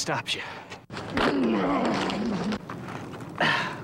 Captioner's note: grunting